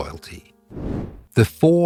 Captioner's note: air whooshing